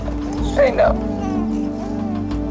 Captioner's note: crying